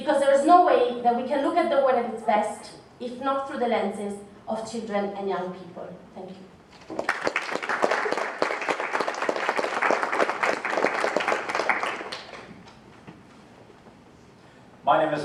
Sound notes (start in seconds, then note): 6.8 applauses